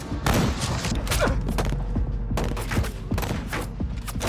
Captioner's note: grunting